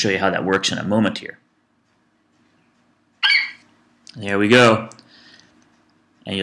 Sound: FlightCheck eagle screeches

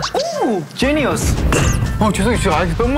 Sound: bang; bang!

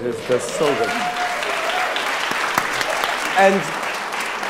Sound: audience applauding

